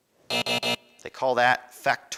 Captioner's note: buzzing